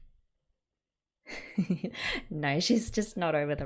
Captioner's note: laughs